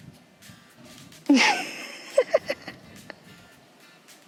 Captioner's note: laughs